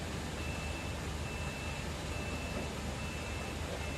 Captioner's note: forklift beeping